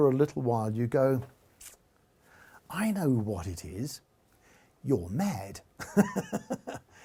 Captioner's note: laughs